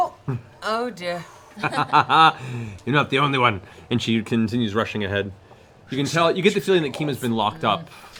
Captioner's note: laughs